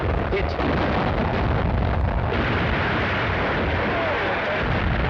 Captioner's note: cannons firing; people murmuring